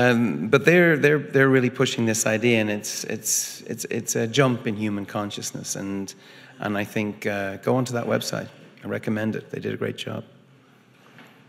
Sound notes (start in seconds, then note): none